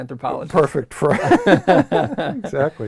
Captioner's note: laugh